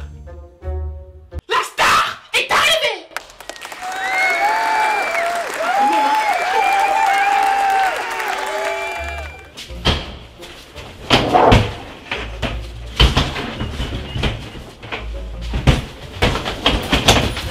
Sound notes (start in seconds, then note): 2.5 yelling; 3.2 cheering crowd